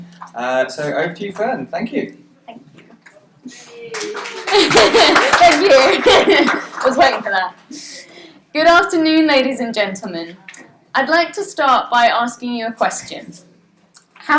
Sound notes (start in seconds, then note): 3.6 applause; 6.4 laughs